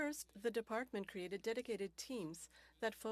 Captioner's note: speaking French